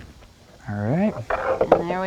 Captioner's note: pencil marring wood